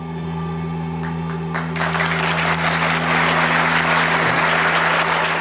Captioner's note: audience cheers